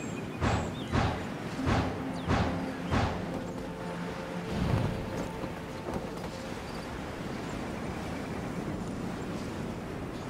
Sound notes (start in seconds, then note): none